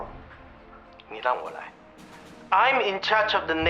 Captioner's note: speaks Chinese